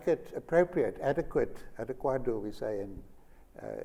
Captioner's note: foreign Language